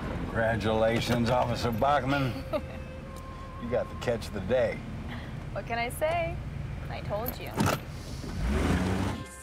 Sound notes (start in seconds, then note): 2.1 chuckles